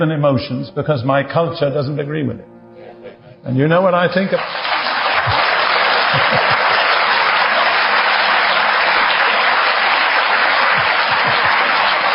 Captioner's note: applause